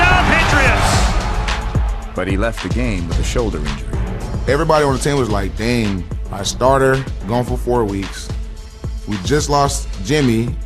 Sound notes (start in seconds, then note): none